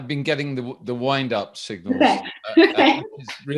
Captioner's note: chuckles